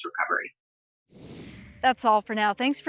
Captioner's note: air whooshes